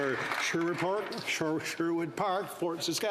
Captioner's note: applause